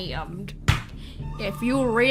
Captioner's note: slams his foot on the desk